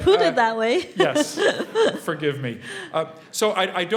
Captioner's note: laugh